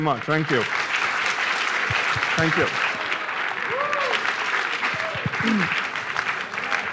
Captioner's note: applause